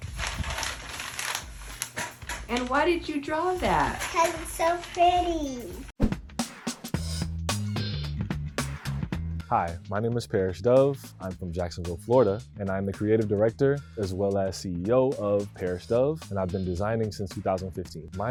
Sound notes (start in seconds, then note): 0.0 paper rustling; 7.4 upbeat music